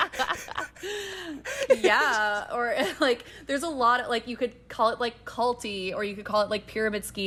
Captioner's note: laughter